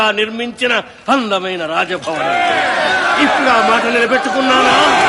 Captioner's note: chanting